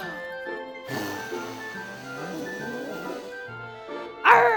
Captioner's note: puppet blowing raspberries